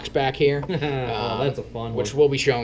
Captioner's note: laughs